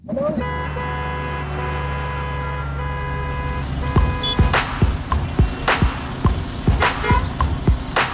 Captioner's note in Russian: сигналы машин